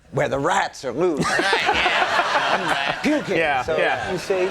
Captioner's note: Conan laughing